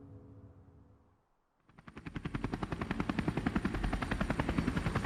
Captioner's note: helicopter whirring